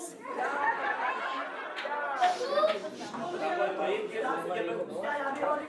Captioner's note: laughing